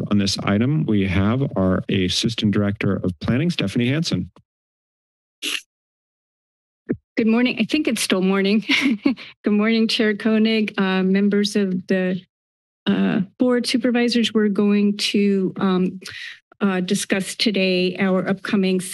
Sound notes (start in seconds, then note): 8.7 chuckles